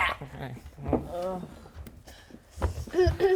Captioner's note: unhappy shuffling